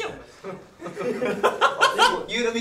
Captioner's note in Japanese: 一同笑い声